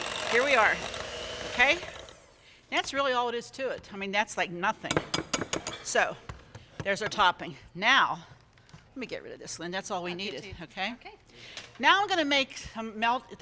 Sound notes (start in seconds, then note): 5.1 beaters tapping